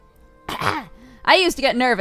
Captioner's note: clears throat